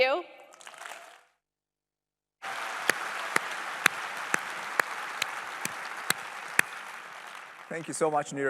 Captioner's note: applause